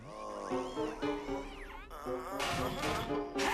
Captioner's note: moaning